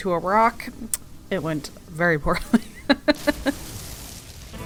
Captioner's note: laughs